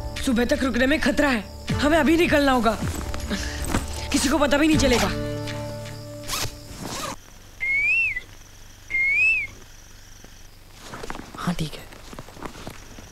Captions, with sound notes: Waiting till morning is risky. We'll have to leave now. No one will even know. (Whistling) Okay.